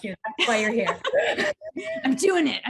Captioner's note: laughs